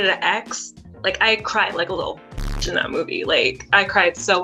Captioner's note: zapping sound